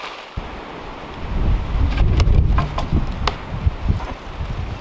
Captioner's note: wind howling